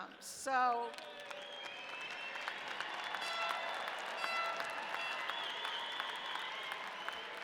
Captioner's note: audience cheering; horn blaring